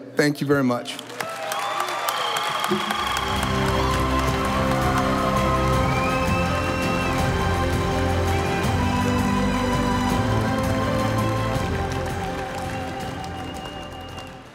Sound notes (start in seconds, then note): 1.7 audience applauding; 3.8 stately music